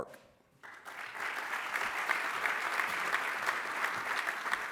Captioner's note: applause